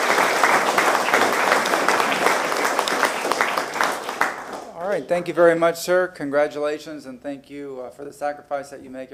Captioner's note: applause